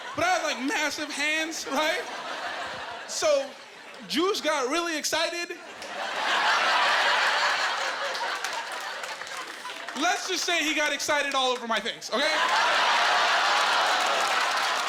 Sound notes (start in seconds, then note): 5.6 laughing; 12.5 laughing and applause